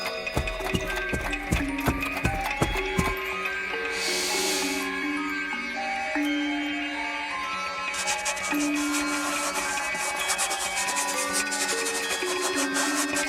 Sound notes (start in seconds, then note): 4.1 Janusz sniffing; 8.0 fingers rasping; 8.1 pensive music continues